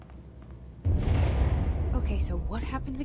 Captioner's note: distant explosion